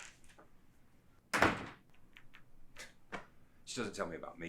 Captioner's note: door slamming